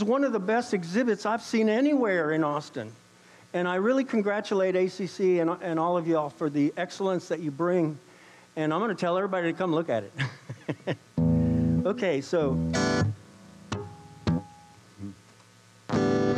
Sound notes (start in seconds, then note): 10.2 laughs; 15.8 electric guitar tuning